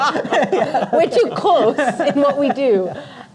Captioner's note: panelists Laughing